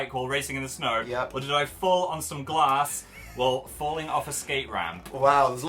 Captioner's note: giggles